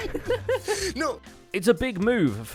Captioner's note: laughing